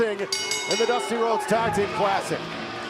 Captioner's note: bell ringing